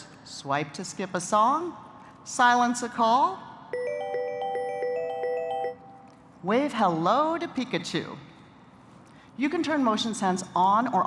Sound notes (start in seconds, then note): 3.7 notification ringing